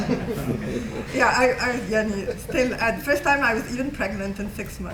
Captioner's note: non-english